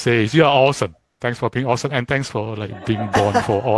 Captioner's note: crowd laughter